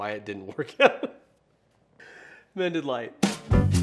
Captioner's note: laughs; upbeat music